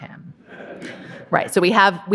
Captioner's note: audience laughing